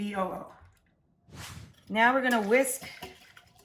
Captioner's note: air whooshes